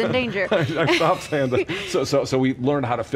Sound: laughs

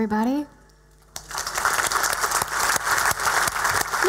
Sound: loud cheering and applause

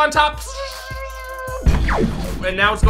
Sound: laser sound effects

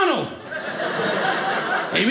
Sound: audience laughing

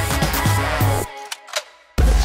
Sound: gun cock

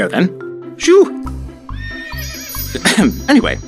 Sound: unicorn whinnies and flies off

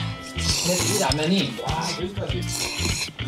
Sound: slurping

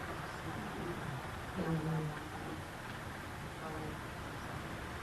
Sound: people chattering quietly

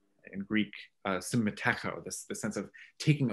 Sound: speaks in foreign language

